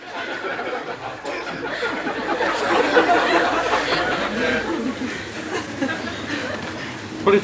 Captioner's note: laughter